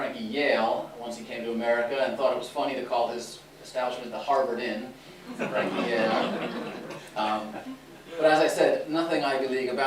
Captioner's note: laughter